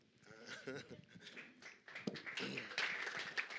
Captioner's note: applause